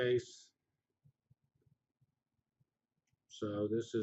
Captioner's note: pause